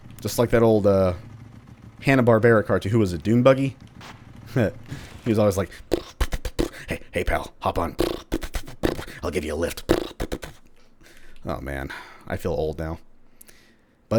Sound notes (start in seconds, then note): 4.9 Dune Buggy-esque sputtering noises; 8.1 sputtering sounds; 10.8 more sputtering sounds